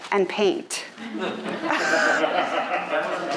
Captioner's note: audience laughing